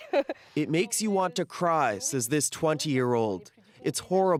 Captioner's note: speaking alternate language